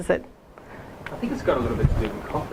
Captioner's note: voiceover